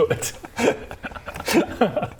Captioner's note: well-meaning laugh